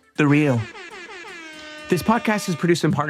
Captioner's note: horn blaring